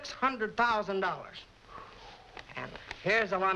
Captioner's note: exhales